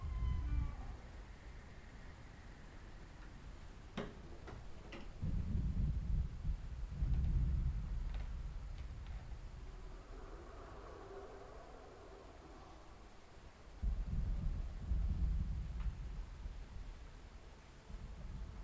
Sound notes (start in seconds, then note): 0.0 door creaking; 5.9 thunder rolling